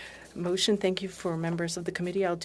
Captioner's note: speaking French